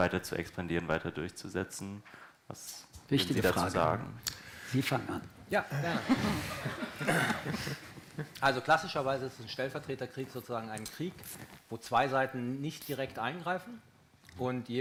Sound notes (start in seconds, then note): 5.6 laughter in the room